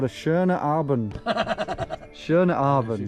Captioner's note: laughs